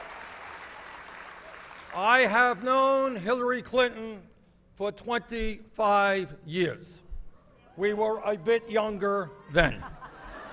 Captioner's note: applause